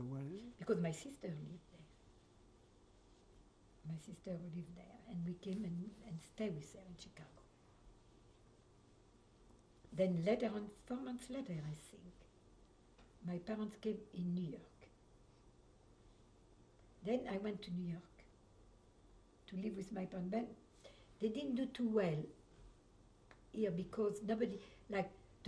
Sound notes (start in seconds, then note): 7.1 pauses for 3 seconds